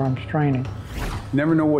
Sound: whooshing

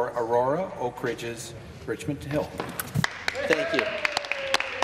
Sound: some Applause

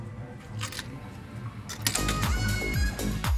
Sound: coin dropping

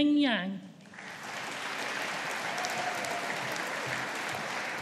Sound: audience applauding

